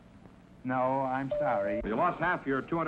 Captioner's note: chime rings